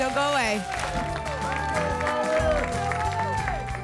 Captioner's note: applause and cheering cont